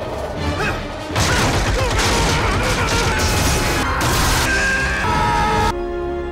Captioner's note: Spider-man grunting and yelling as he is overwhelmed by the power of Train